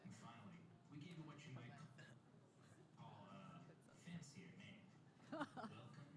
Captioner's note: laughter